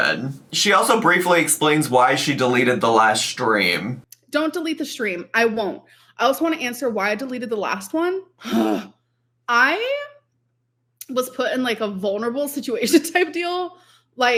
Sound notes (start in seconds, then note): 9.0 groans